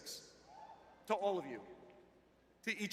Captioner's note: cheering